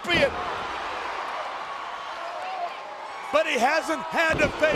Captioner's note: crowd cheering